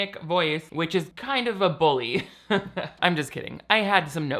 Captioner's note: laughs